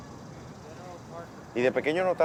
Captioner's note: distant Chatting